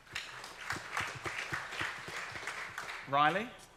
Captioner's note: audience clapping